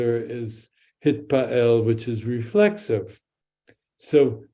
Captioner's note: speaks in Hebrew